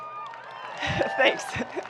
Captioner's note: people clapping